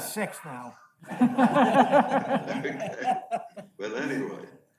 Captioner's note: male Voice; audience laughs